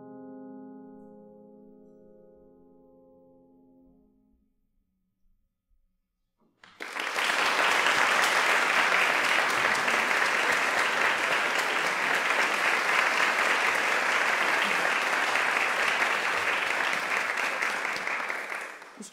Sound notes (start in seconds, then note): 6.8 applause